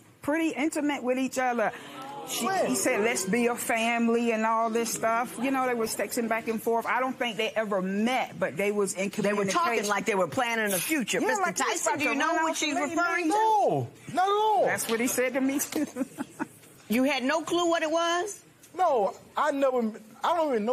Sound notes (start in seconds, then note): 15.7 laughing